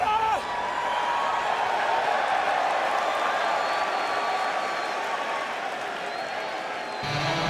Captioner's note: crowd cheering